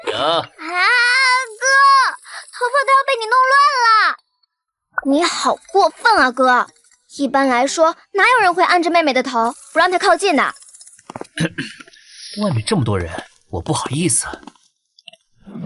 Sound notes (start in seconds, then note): 11.3 cough cough